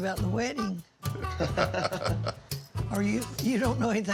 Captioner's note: laughs